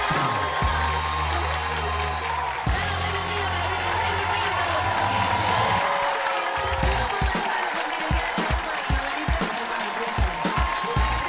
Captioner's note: audience cheering